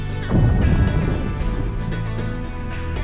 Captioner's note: explosion